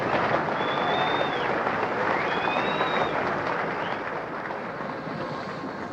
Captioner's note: crowd cheering